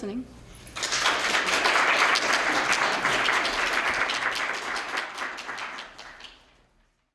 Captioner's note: applause